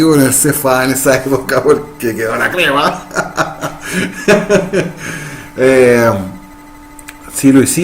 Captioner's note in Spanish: Risas